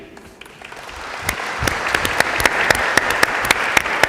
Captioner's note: applause